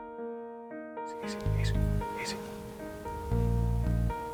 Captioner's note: whispering